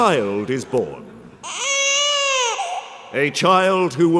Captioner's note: baby cry